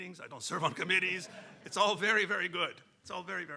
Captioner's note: audience laughing; laughing